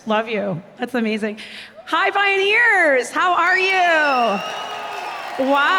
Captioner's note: cheers